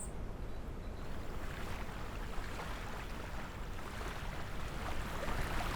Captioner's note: water splashing